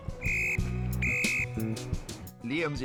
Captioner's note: whistle tweeting